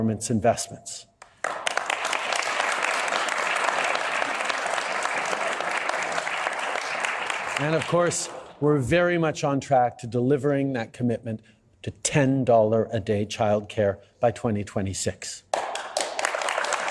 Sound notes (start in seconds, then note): 6.0 applause